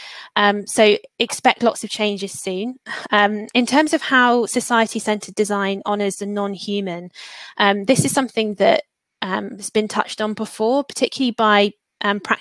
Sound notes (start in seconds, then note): 7.1 erm